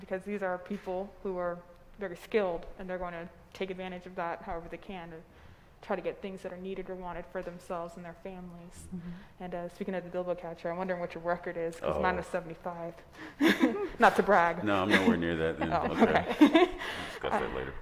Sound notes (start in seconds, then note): 13.2 laughing